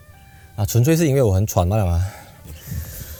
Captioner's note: breathe heavily